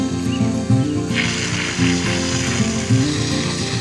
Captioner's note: gentle guitar music playing; water spraying